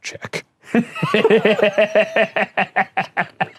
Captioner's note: laughing